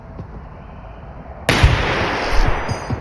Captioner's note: gunshot